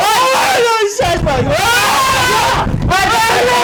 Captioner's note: banging